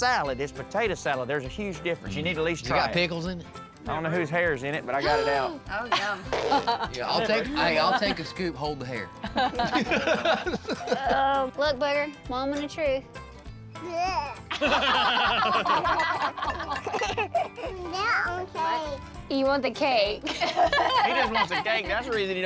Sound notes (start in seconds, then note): 5.6 gasps, laughs; 9.2 everybody laughs; 14.5 everybody laughs; 20.2 everybody laughs